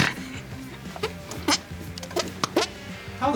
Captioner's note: laughing